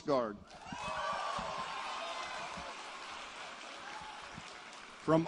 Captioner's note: applause